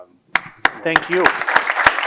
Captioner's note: audience applauding